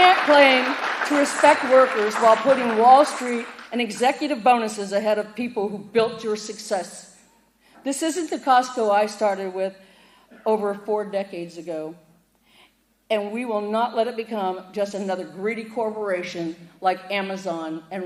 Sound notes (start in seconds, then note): 0.0 applause